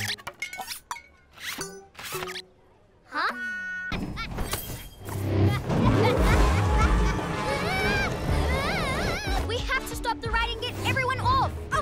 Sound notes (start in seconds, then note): 5.4 evil laughter; 7.5 screaming